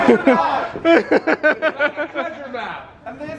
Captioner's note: laughing